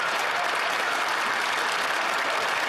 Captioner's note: speaking French